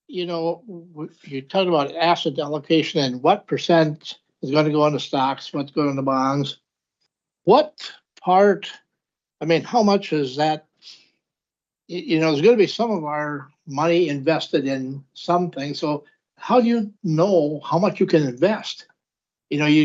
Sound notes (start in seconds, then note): 10.3 snorts